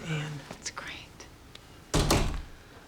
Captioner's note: door opens, closes